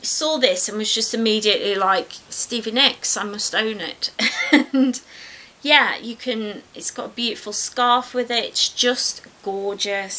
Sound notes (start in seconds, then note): 4.2 giggles